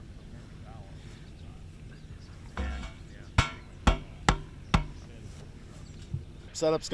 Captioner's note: fireworks setup sounds